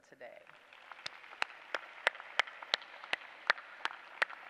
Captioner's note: applause